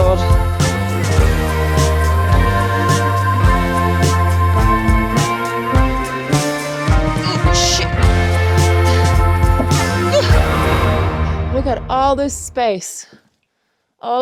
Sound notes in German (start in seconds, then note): 0.3 Fröhliche Musik; 0.3 Sänger singt; 8.2 Lebhafte Musik; 9.5 Tischklappern